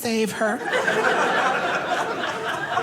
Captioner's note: audience laughing